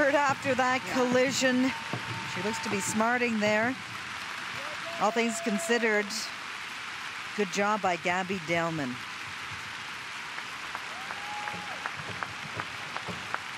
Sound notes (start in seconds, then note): 2.3 cheers and applause